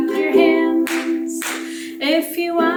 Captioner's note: clap, clap